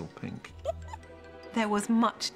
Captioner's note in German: kichert